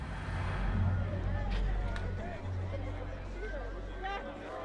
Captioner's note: people chattering